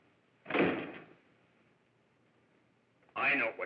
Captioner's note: door slams